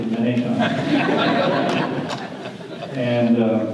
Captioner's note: audience laughter